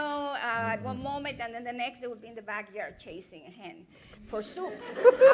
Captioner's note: laughter